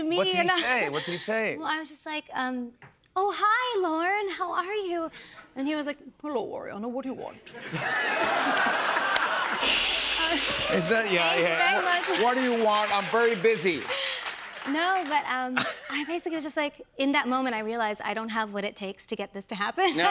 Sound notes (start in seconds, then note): 7.6 laughter; 9.6 cymbal crash